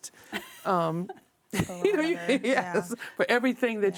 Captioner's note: all laughing